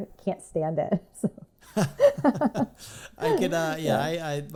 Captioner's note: laughing